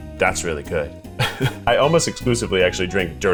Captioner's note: chuckles